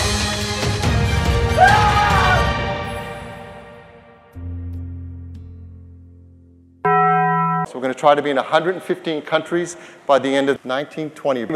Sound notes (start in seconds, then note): 1.5 screaming; 6.8 Taco Bell bong